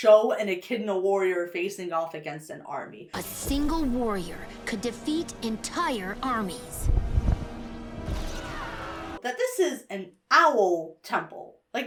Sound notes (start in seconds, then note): 6.5 dramatic music; 8.3 army screams